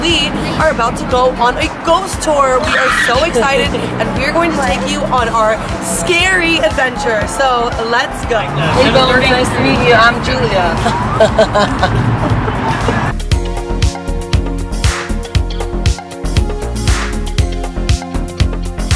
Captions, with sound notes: are about to go on a ghost tour we are so excited (girl screeches) and we're going to take you on our scary adventure so let's go. - Hey bones nice to meet you I'm Julia. (laughing) (spooky instrumental music)